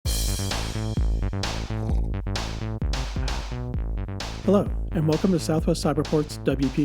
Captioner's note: slurp